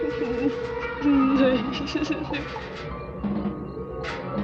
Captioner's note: crying